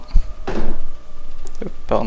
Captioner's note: chair sound